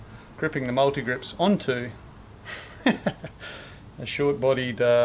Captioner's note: laughing